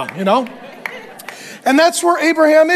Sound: congregation clapping

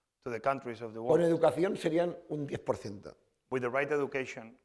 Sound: speaking spanish

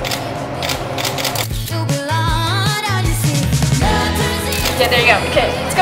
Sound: camera shutter clicks

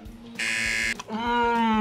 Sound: buzzer

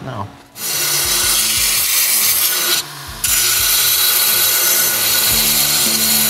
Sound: abrasive grinding, scraping

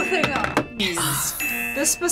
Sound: sighs

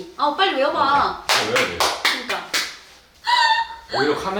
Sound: focus clap

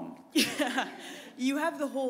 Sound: chuckle

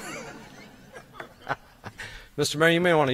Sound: laughs

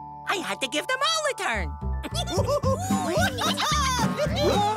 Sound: laughing and cheering

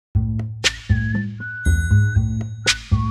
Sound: girl whistles; boy whistles

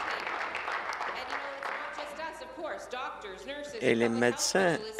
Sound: applause

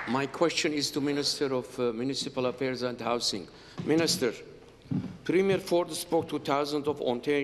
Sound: applause

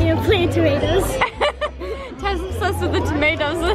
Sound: laughing

